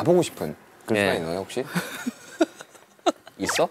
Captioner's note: haha